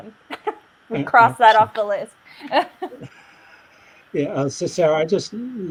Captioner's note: laughs; laughs